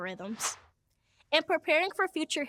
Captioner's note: air whooshes